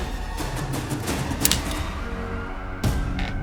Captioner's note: click